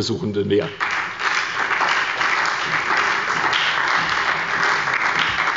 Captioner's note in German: Beifall bei der SPD und dem BÜNDNIS 90/DIE GRÜNEN